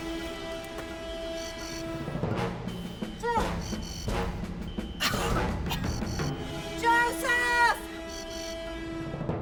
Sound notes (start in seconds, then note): 5.0 coughing